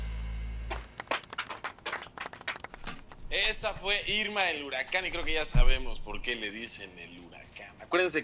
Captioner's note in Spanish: Aplaude